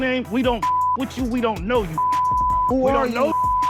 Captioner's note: beep